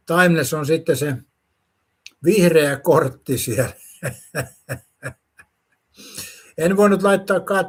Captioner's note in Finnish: naurua